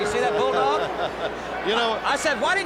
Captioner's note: chuckles